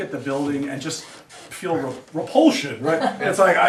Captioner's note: students laugh